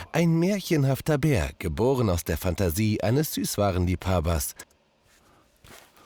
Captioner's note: voice speaks german